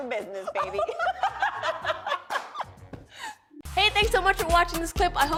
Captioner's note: laughter